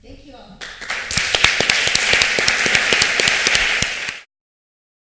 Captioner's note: applause